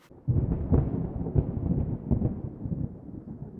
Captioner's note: thunder